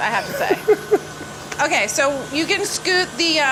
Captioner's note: Deandre laughs